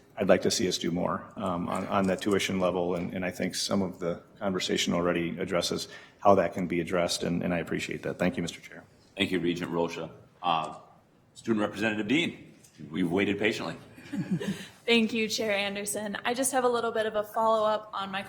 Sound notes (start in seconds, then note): 13.9 group chuckling